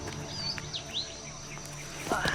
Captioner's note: Sam strains